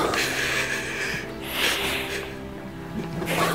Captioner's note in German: Tiefes Seufzen